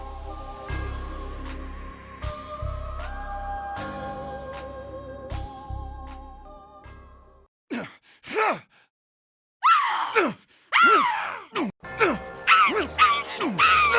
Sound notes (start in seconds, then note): 8.2 shouts; 8.2 shrieks